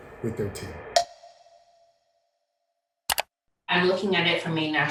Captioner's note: timer snicks